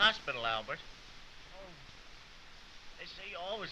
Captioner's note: groaning